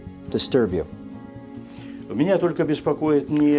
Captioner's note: speaking Russian